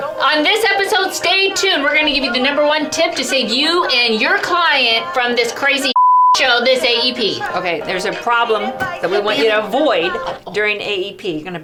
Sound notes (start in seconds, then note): 5.9 beep